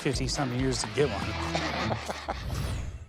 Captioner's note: laughs